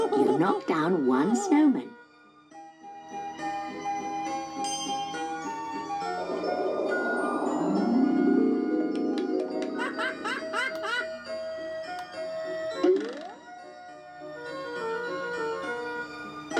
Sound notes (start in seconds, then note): 9.7 pingu laughing